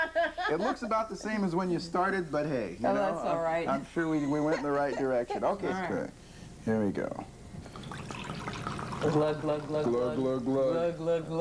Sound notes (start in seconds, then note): 0.0 laughter; 4.2 laughter; 7.6 pouring sounds